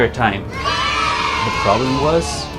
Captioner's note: children cheering